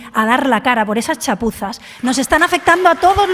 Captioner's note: applause